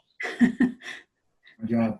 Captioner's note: laughs